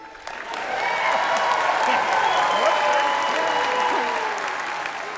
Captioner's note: audience cheers and applauds